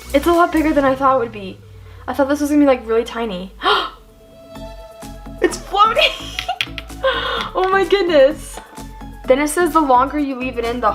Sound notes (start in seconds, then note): 3.5 gasps